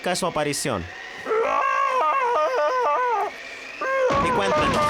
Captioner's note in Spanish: Yeti gritando